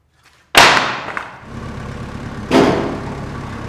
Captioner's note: wood bangs